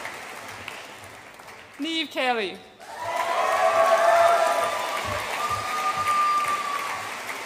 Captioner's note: audience applauds and cheers